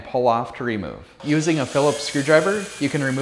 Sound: screwdriver whirring

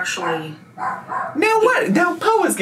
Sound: Po barks

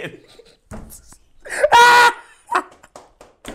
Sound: laughing

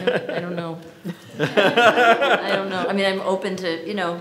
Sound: audience laughs

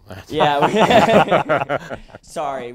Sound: laughter

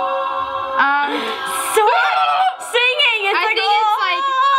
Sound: trills

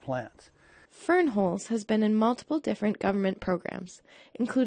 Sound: voiceover

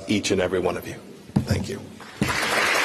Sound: applause

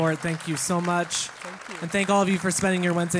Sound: applause

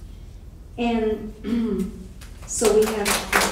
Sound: clears voice; audience clapping

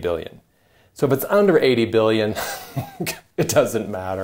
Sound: chuckles

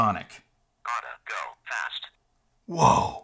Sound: voiceover

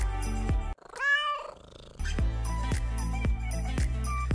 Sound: cat meows

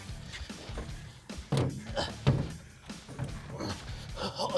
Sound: grunting

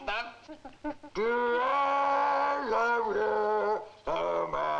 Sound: gorilla harmonizing

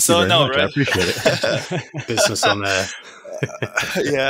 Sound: laughs

